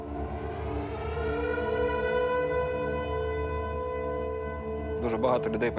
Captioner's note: air raid sirens blaring